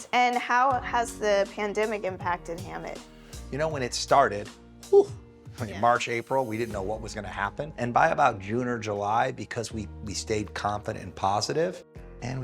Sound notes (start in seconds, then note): 5.1 sighs